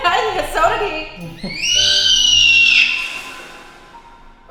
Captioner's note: screaming